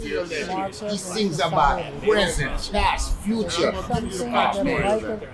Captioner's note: overlapping chattering